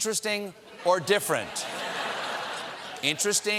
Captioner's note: laughter